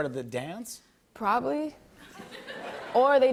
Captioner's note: laughter